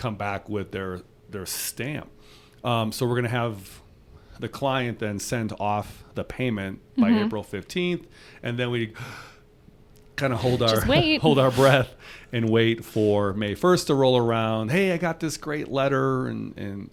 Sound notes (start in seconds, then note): 9.0 inhales